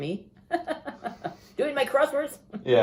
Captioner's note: laughter